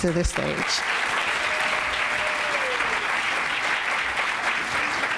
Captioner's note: applause